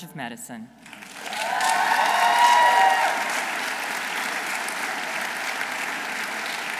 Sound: audience applauding; audience cheering

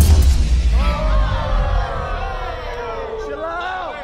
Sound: crowd groaning

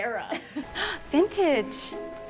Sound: laughter

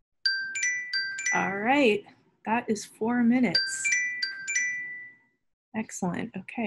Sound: alarm Rings

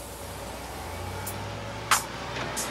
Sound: bus door hisses; bus engine rumbling; upbeat R&B music

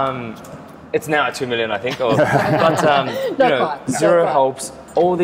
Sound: laughs

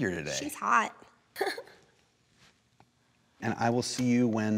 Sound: laughs

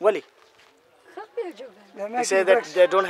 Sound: speaks in foreign language

